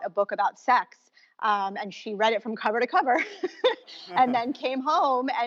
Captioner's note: laughs